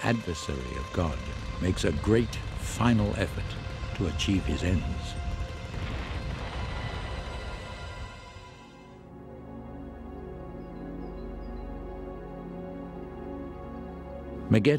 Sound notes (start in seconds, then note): 2.1 birds chirping